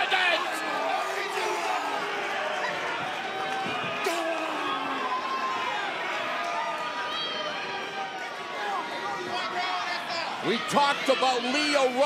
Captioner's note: crowd cheering